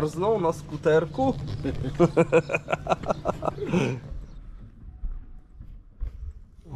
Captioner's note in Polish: śmiech